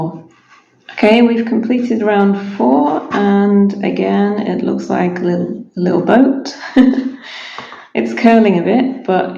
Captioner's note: laughs